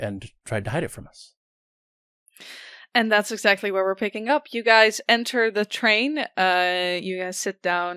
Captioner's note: none